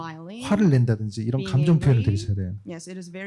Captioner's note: speaking korean